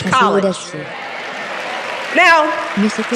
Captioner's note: cheering